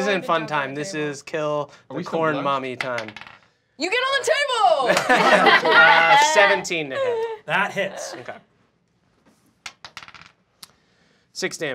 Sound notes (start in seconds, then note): 2.8 dice clacking; 4.9 cheering; 9.6 dice clacking